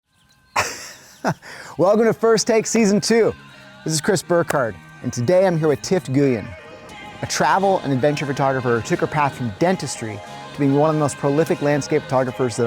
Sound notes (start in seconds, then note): 0.5 laughing; 3.8 upbeat music